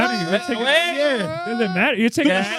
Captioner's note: both Yelling